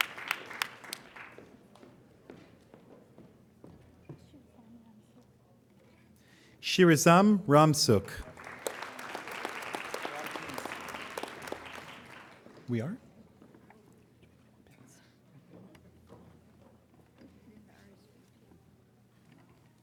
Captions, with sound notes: Shirizam Ransuk. (applauding)